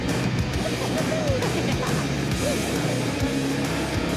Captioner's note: cackles